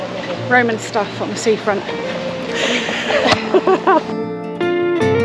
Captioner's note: laughter